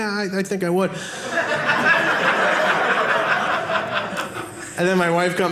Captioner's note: audience laughing